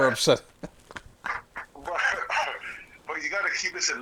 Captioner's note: laughing